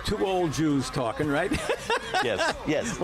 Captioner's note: laughs